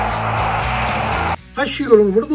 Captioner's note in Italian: Applauso